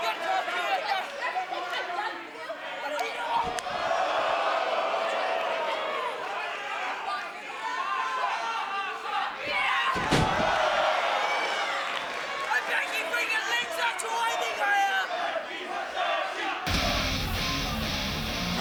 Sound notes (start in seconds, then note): 15.4 fans chanting